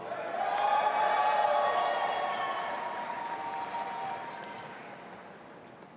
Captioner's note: audience applauding and cheering